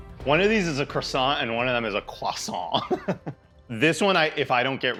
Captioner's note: laughs